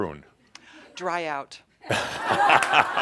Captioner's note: laughter